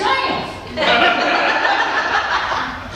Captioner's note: laughter